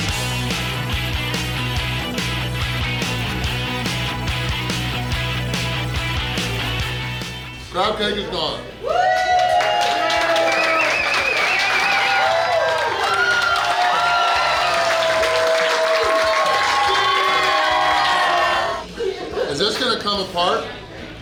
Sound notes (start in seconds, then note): 8.8 cheering & Clapping